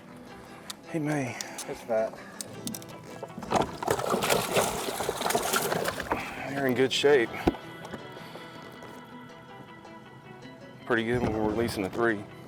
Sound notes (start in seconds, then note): 3.0 fish splashing